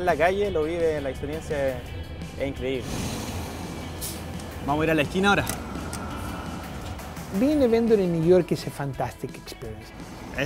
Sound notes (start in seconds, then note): 3.1 engine rumbles